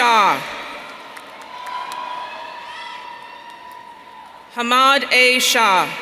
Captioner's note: audience cheering